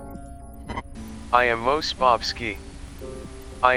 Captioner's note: synthesized voice